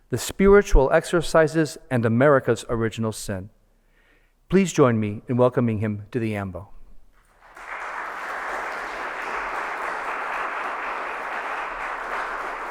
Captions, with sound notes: The Spiritual Exercises and America's Original Sin. Please join me in welcoming him to the ambo. (audience applauds)